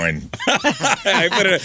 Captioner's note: laughing